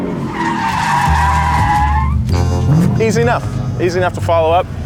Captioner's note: car engine revving